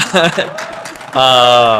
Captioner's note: audience applauding